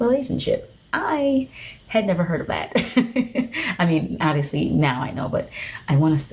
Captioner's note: chuckles